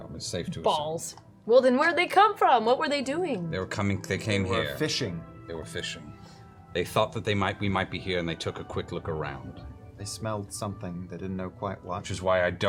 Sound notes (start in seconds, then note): none